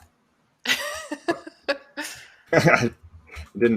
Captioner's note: laughter